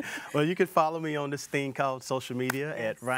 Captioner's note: laughing